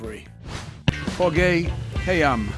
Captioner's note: air whooshing